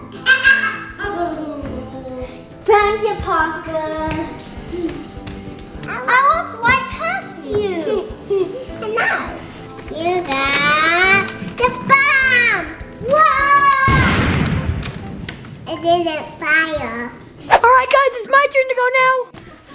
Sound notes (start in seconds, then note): 0.2 laughs; 13.4 yells; 13.8 bomb explodes